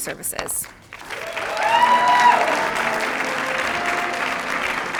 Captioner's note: cheers, applause